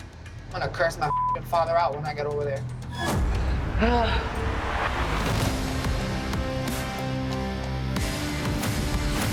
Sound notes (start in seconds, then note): 3.3 sighs